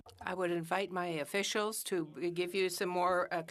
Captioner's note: speaking French